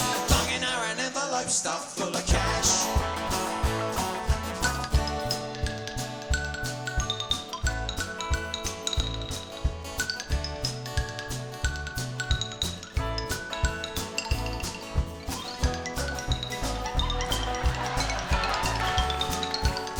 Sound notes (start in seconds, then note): 17.3 audience laughs